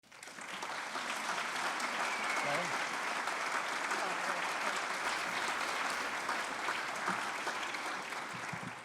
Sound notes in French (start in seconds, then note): 0.0 Applaudissements